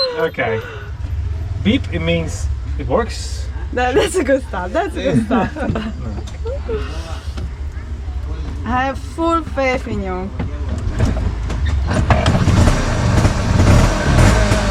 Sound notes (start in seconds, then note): 3.7 laughing; 11.5 engine starts